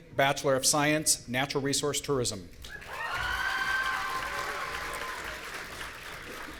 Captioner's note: audience cheering